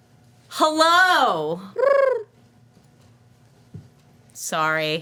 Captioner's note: bird cooing